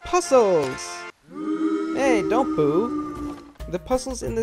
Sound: you boo loudly

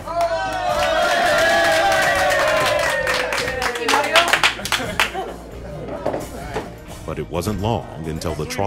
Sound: cheering and clapping

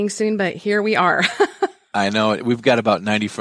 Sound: laughing

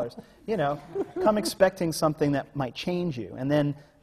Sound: laughs

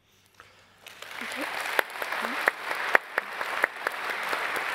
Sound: applause

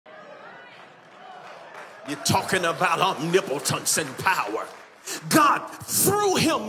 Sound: congregation cheering

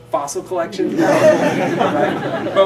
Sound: laughter

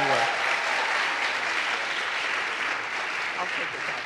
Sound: audience applauds

